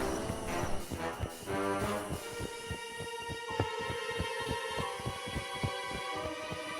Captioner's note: wings flapping; dramatic music